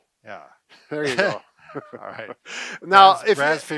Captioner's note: chuckles